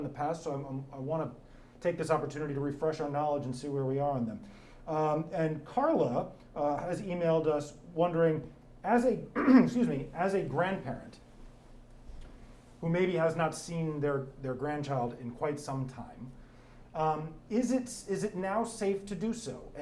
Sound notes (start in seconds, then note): 9.3 clears throat